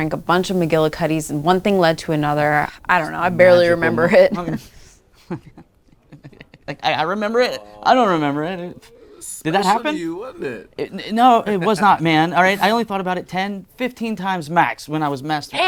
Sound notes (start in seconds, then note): 5.2 laughter